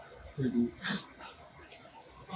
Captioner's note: sniffle?